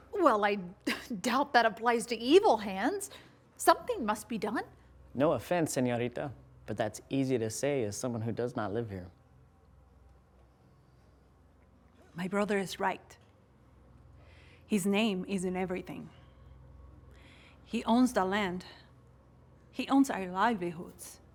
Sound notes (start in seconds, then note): none